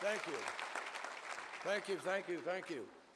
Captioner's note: applause